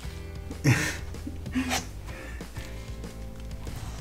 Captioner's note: laughs